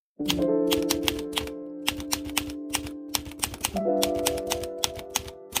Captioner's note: delicate piano notes playing; typewriter keys punching